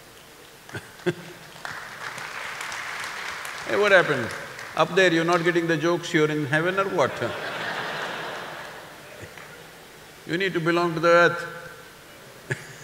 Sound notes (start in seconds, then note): 0.4 applause; 0.7 laughs; 6.9 laughter; 12.2 laughs